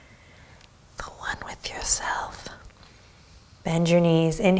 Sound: whispers

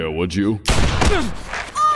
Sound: gunshot; grunts

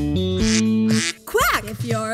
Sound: duck quacks

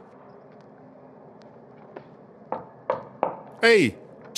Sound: knock

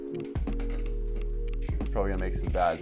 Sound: wheels spinning

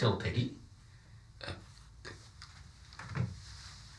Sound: stammers

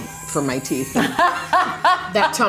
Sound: all laughing

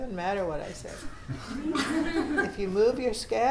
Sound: students laughing

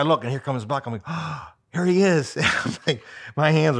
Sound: gasps

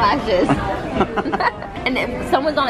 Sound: laughs

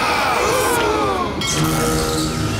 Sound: gasping

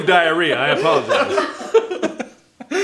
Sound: uncomfortable laughter; laughing intensifies

